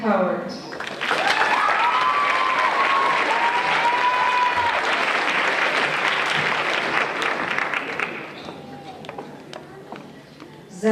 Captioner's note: applause